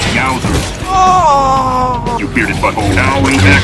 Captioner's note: overlord lets out a loud and lustful moan